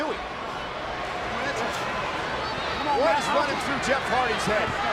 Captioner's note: audience chattering